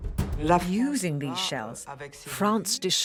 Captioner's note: voiceover